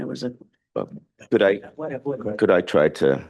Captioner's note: indistinct chatter